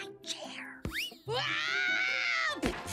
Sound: screams

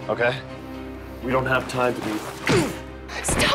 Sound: fist smashing; groaning

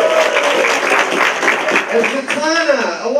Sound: applause

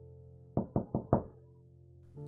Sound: door knocking

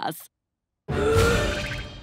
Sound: gasps

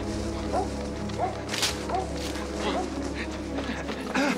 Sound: all panting; grunting

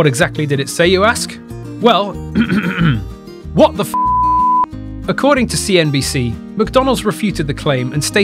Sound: clear throath

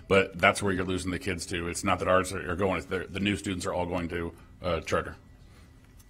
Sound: none

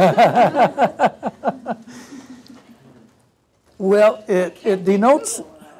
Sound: laugh

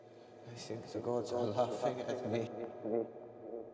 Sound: voice echoing

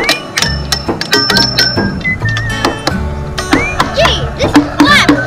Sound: tools hammering

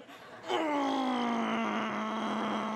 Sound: growling

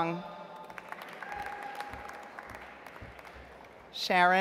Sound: audience applauds

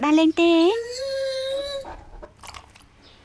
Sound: dog whining

